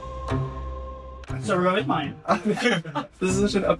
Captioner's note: laughs